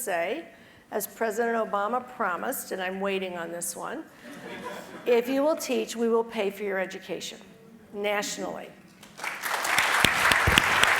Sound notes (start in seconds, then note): 5.9 laugh